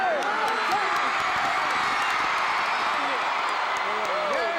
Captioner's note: audience cheering